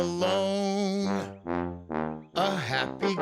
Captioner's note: hooting